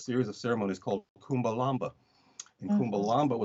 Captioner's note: speaks in foreign language